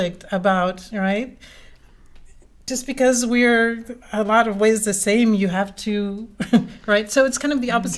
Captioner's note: laugh